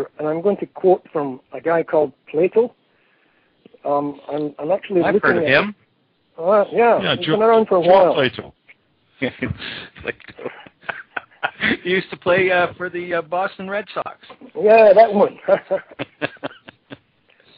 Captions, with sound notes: And I'm going to quote from a guy called Plato ... I've heard of him. (laughter) Plato! He used to play for the Boston Red Sox. Yeah, that one. (laughter)